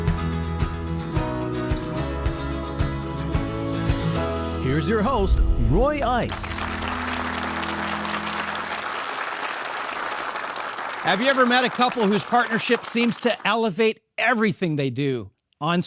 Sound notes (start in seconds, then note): 0.2 upbeat music; 6.0 audience applauding